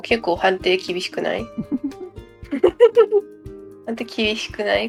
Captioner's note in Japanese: 一同笑